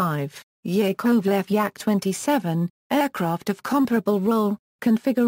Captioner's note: German